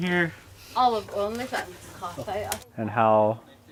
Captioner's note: woman speaking Navajo